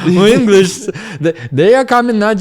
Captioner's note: laughs